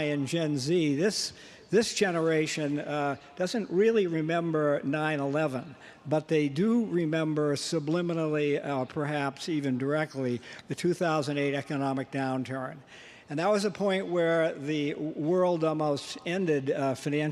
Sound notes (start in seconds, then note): none